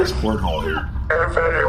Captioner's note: beeping as comms link is established; mechanical sounds, the Blazing Rochester groans